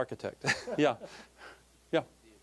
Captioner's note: laughing